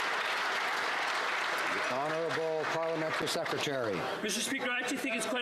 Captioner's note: some Applause